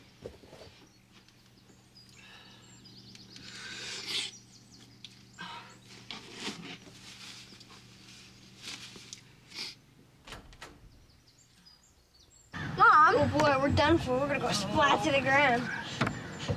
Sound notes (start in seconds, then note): 10.2 door opens